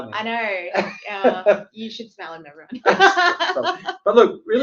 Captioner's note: laughs